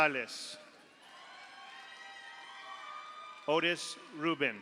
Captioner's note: audience applauds; audience cheers